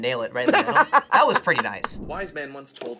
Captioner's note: laughs